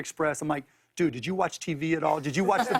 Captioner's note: laughter